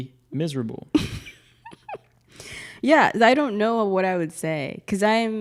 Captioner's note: laughs